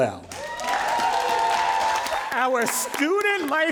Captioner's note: all applauding and cheering